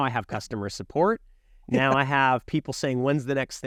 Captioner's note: laughing